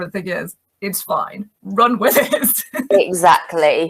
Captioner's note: laughs